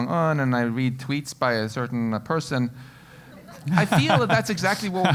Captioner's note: laugh